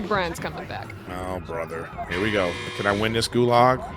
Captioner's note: alarm buzzing